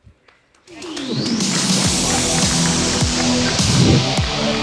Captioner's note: audience applauds